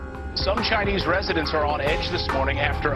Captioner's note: voiceover